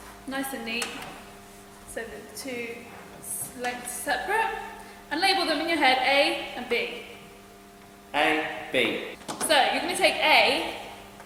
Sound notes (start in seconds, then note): none